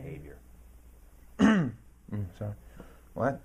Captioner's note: clears throat